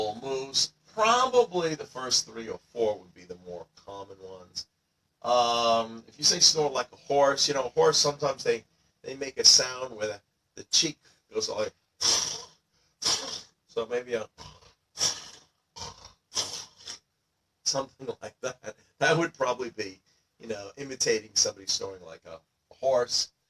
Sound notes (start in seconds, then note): 13.1 cheek flapping sounds